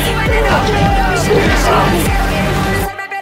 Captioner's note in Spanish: gritos